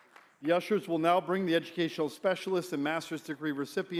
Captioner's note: applause